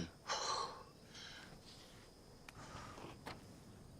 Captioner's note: panting